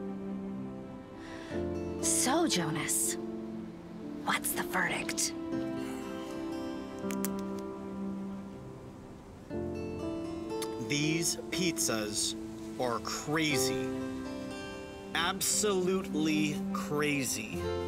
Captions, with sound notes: - So, Jonas, what's the verdict? (Jonas sighs) - These pizzas are crazy. Absolutely crazy!